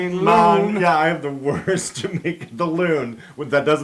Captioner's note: laugh